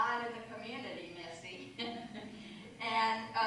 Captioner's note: laughter